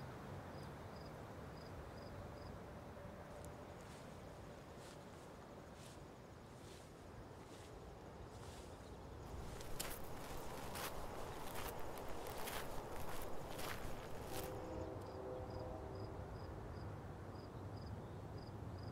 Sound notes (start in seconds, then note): 14.2 distant train horn blares